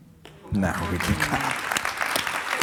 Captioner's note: audience clapping; laughing